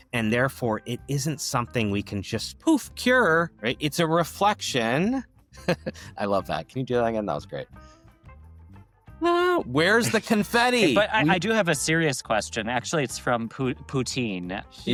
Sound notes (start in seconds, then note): 5.5 laughs